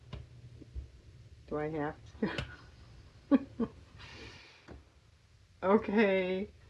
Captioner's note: laughs